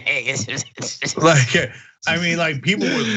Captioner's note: laugh